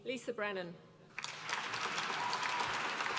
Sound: applause

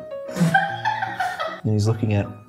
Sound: laughs

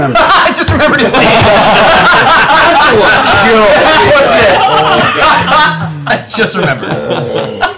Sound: laughter

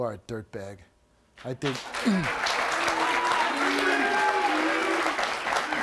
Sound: audience applauds

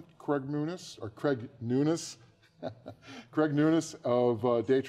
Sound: laughs

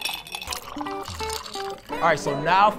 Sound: muddler thumps; ice clinks; beverage splashes; gentle guitar music

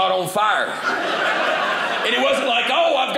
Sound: audience laughing

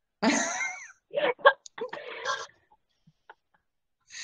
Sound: laughing

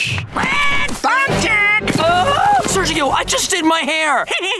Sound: squawking; screaming; laughing

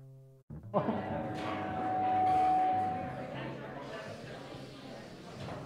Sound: chatter

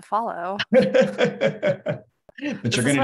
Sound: laughter

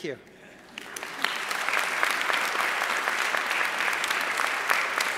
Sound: audience applauding

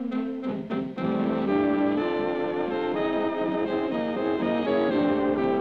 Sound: none

